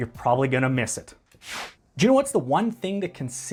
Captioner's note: air whooshing